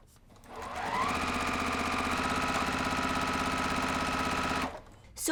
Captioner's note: sewing machine running